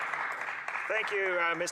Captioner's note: speaking French